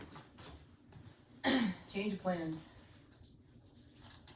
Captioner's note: clearing throat